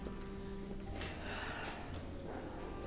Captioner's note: sigh